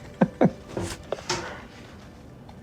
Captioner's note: chuckles